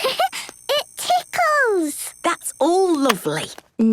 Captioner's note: giggles